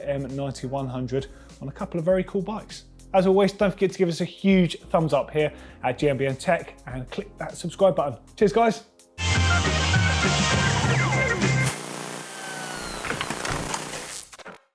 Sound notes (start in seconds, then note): 9.2 retro music; 11.8 TV static